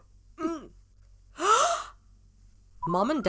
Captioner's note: takes big gulp of water and nearly chokes; deep breath in